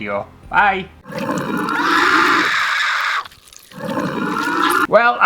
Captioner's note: monster Growls & Screams